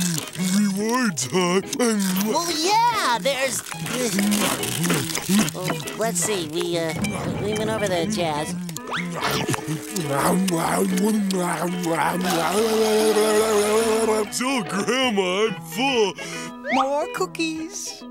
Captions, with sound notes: [scarfing] Rewards, huh? Well, yeah, there's, eh... well, let's see, we... We went over the jazz... [scarfing] Oh, Grandma, I'm full.